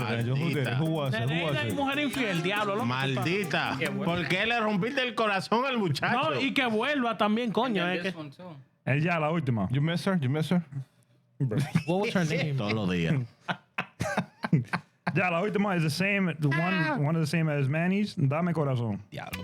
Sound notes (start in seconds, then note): 13.1 laughter